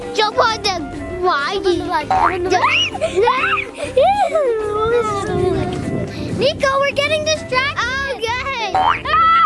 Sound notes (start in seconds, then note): 2.1 bouncy spring; 3.2 screams; 9.0 screams